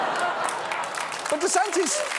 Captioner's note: audience laughs